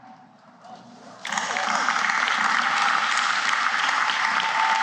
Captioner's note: applause